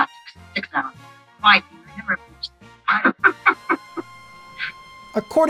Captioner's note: laughs